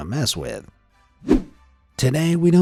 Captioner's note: image whooshing